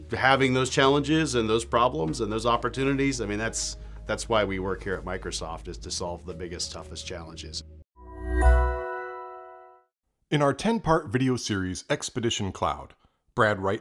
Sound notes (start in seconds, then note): 8.0 chiming